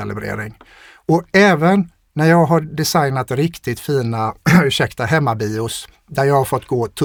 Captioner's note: clears throat